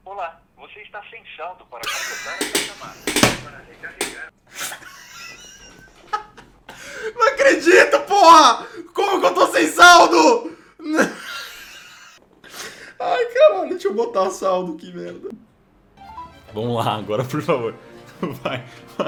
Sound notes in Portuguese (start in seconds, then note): 1.6 risos; 10.9 risos